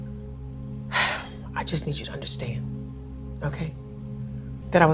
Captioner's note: sighing